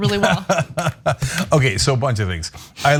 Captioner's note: laugh